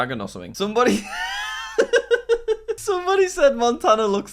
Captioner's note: laughing